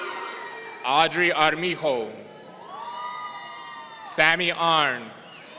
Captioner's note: audience cheering